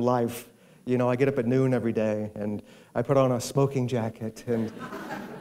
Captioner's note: laughter